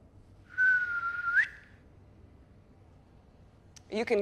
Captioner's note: whistles